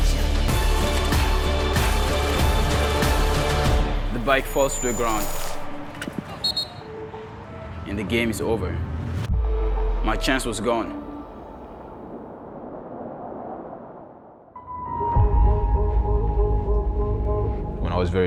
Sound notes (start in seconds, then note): 6.4 whistle blows; 14.5 epic music